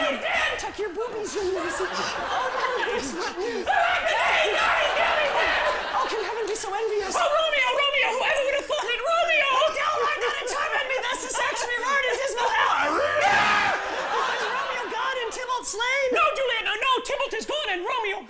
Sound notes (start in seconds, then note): 2.1 shouting